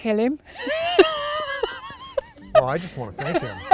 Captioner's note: laughing together